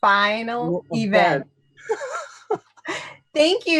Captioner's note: laughter